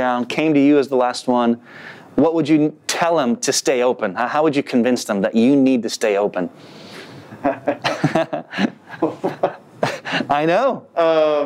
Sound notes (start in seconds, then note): 7.4 laughs